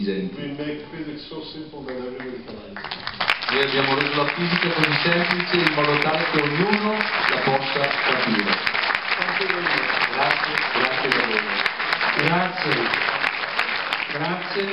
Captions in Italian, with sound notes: Noi facciamo la fisica in modo semplice, in modo che tutti sappiano. (Clap, clap) (Clap, clap)